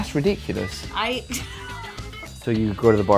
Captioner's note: laughs